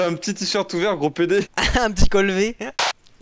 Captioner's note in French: rire